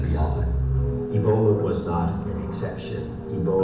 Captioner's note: voiceover